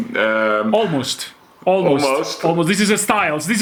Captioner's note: none